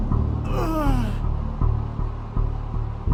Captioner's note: groans in pain